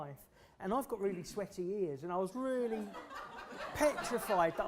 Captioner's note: laughter